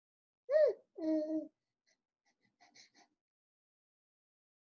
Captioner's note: child mumbling